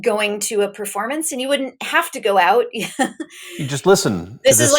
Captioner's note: chuckles